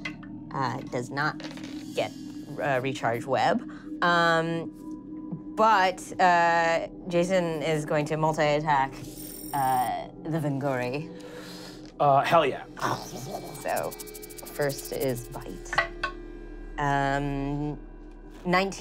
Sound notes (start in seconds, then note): 0.1 rolling dice; 12.9 skittering